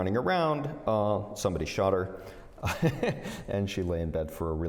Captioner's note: laughter